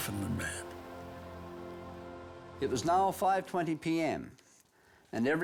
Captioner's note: reading letter